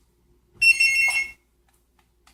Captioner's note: phone ringing